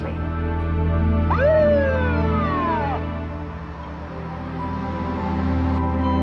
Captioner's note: slow ominous music; siren blaring